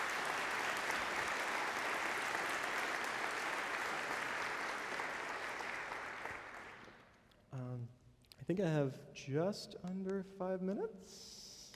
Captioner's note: applause